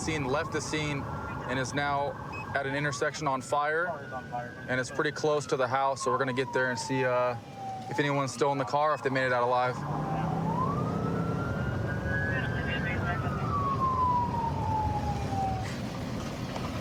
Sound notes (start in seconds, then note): 9.6 police sirens blaring; 12.2 dispatch chatter